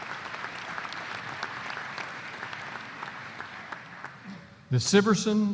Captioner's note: applause